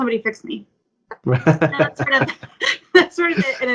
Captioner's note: laughs